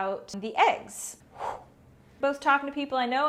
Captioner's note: whoosh